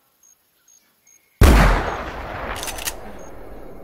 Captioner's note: rifle shot